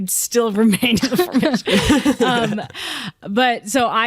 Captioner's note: laughter